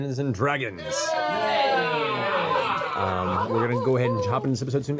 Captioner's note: cheering